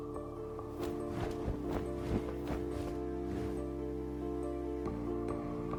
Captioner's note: wings flapping